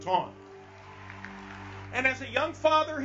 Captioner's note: congregation clapping